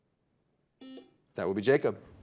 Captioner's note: buzzer dings